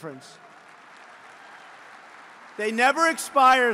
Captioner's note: applause